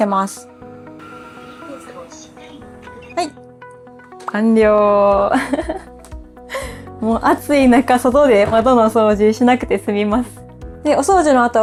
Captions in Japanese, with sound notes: はい、完了。もう暑い中外で窓の掃除しなくて済みます。で、お掃除の後はよく見るとね、しっかりこう汚いが取れているのが見えたりもするので、このパットを洗ったりとか、あとは残っているお水を捨てたりとかしてください。 [笑い]